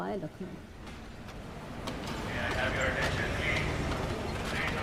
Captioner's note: train announcement